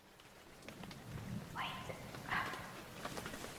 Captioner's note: voiceover whisper